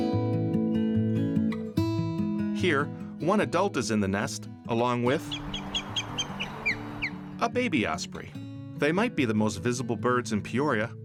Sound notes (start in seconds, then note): 5.1 osprey calling